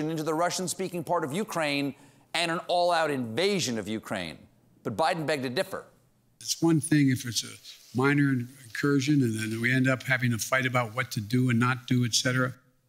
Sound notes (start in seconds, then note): none